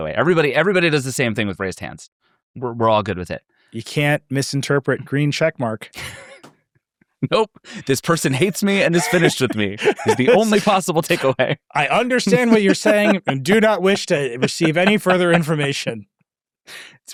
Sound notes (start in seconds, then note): 5.9 laughing